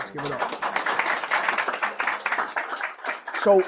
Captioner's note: applause